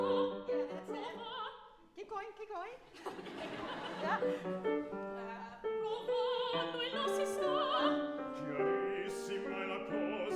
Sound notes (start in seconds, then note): 2.9 audience laughing; 5.7 singing in foreign language